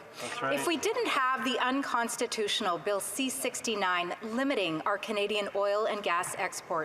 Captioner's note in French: voix de l'interprète